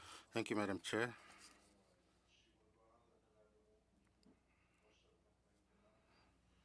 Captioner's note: speaking French